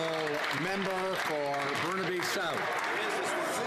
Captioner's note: some Applause